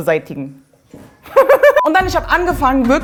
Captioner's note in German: Lacht